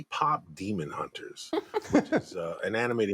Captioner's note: laughter